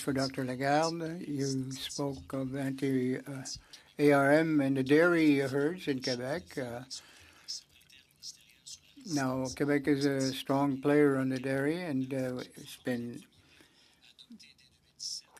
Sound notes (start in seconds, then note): 2.5 speaking French